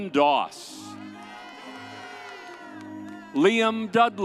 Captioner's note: audience cheers